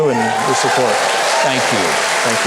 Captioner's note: crowd cheering